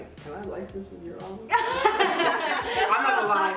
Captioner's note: laughter